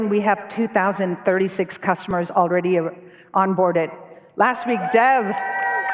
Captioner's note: cheers and applause